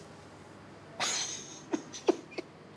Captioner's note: laughs